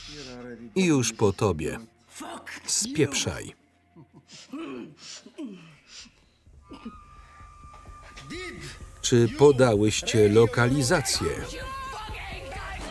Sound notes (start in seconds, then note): 5.3 grunting